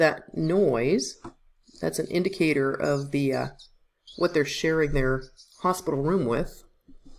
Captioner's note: squeeking noise